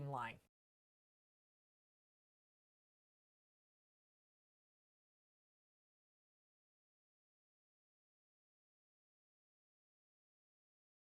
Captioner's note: no Sound Present